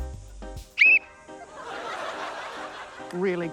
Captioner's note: whistle trills